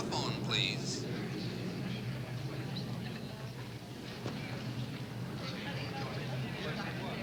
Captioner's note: airplanes whooshing; travelers chattering